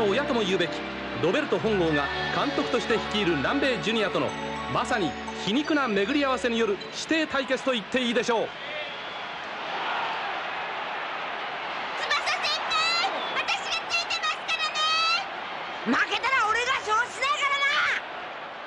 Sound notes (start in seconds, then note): 7.3 applause